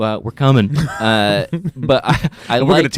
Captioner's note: laughing